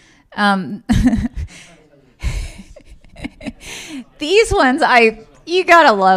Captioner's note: laughs